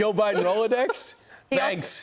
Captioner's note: laughter